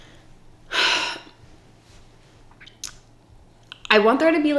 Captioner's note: sighs